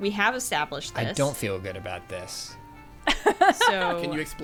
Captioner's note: pat